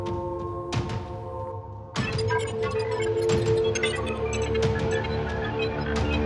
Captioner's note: chilling music continuing; screen beeping and buzzing